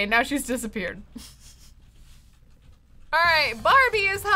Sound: laughs

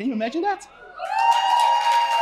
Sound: cheering; applause

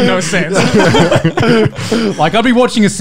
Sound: laughing loudly

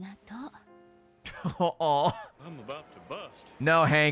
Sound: laughs

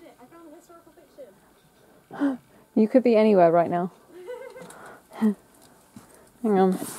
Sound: laughs in the distance

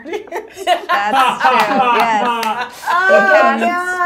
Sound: all laughing

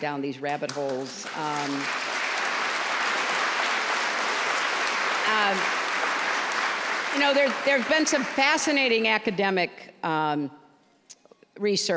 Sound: applause

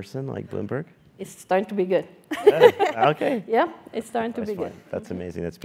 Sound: laugh

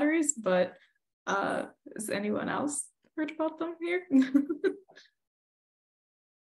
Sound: giggles

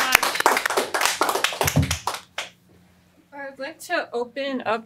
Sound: applause

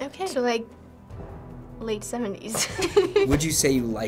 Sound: both chuckle

